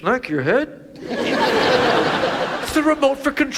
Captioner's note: audience laughs